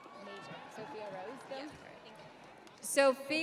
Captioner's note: audience cheering